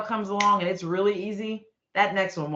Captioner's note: fingers snapping